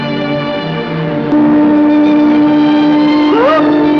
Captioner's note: ship's horn